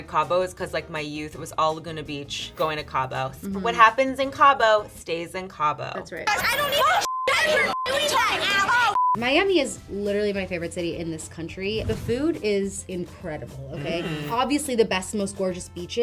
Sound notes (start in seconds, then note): 6.6 beep; 8.5 screen beeps